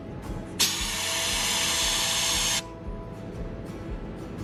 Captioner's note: tool hisses